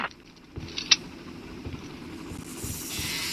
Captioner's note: gun cocks